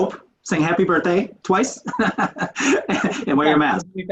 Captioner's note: laughs